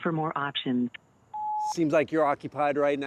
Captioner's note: phone beeps